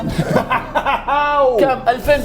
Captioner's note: laughs